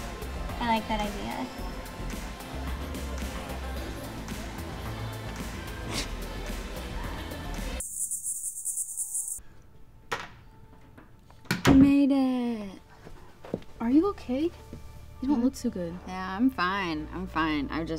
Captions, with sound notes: - I like that idea. (Cody huffs) (door clunking) - I made it. - Are you okay? You don't look too good. - Yeah, I'm fine. I'm fine.